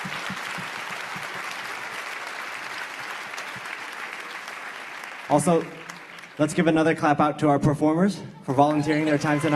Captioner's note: cheers and applause